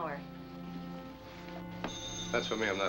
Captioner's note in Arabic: رنين الهاتف